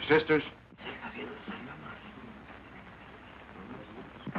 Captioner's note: crowd murmuring